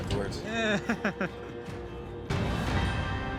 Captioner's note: laughter